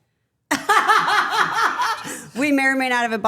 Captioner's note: Stephanie laughs